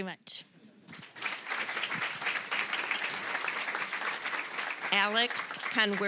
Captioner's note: applause